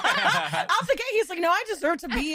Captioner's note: laughter